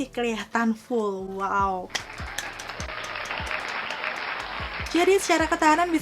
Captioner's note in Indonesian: applause